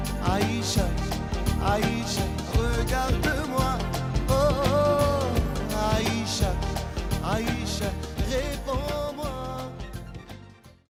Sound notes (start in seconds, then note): 2.8 non-english; 8.5 non-english